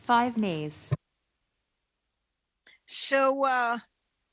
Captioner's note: speaking French